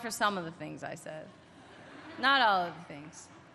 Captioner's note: laughter